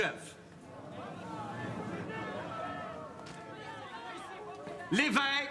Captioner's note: audience groans and murmurs